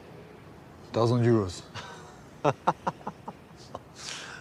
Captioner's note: laughs